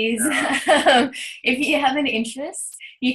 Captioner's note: laughs